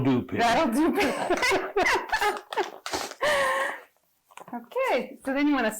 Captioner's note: both laughing